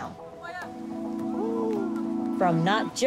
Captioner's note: people chatter